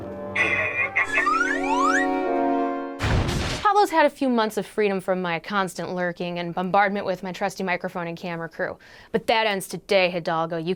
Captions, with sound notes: [Chopper laugh] [Slide whistle] Pablo's had a few months of freedom from my constant lurking and bombardment with my trusty microphone and camera crew. But that ends today Hidalgo.